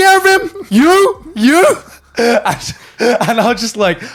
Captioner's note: laughing